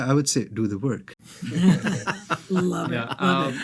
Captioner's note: everyone laughing